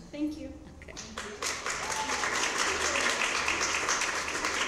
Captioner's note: cheering and applause